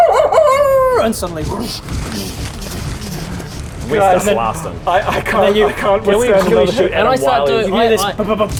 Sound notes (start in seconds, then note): 1.7 whoosh groosh